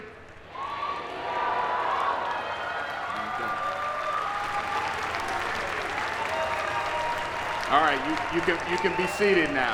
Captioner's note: applause